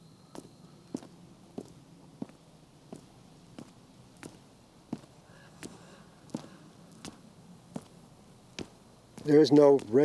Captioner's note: footfalls